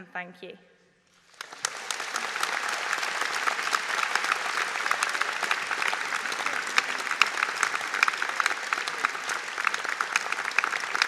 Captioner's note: audience Applause